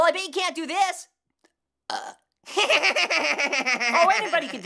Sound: burps, laughs

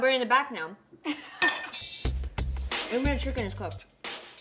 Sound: laughing

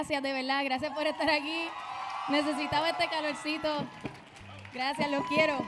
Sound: audience cheering

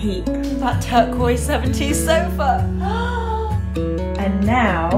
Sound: gasps

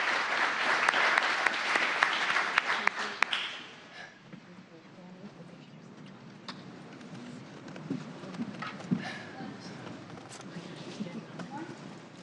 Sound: applause

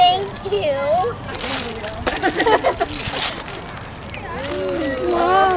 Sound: wrapping paper ripping

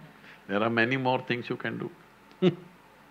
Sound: laughs

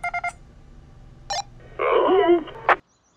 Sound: befuddled scientist shrug sound

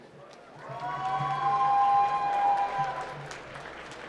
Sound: applause

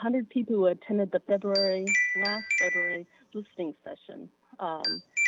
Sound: chime

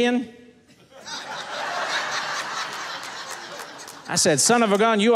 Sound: audience laughing

